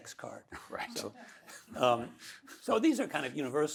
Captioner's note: laughs